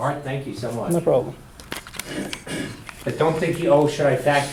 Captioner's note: voiceover